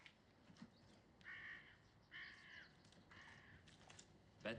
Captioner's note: bird squawks